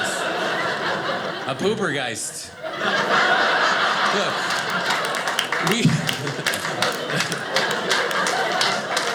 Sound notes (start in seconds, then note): 0.2 audience laughing; 4.6 audience laughing